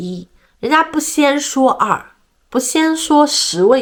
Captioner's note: in German